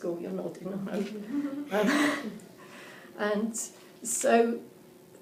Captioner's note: laughing